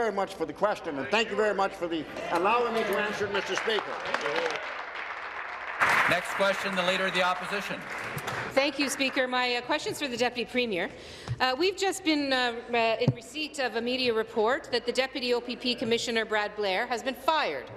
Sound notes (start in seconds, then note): 7.3 applause